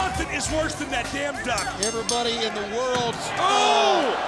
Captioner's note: bell rings